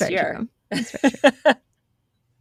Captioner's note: laughing